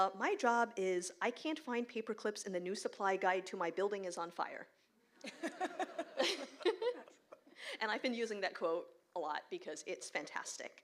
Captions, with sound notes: "My job is I can't find paperclips in the new supply guide to my building is on fire." [laughter] I've been using that quote a lot because it's fantastic.